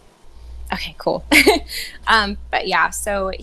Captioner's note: laughs